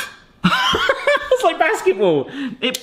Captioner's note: laughs